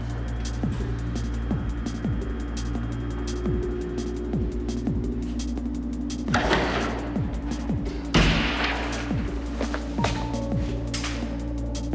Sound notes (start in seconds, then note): 6.1 metallic doors